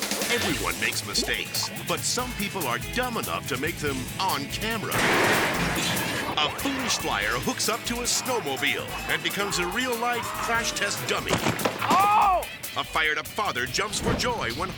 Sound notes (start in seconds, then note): 0.0 upbeat music; 4.9 car smashing; 11.1 person thuds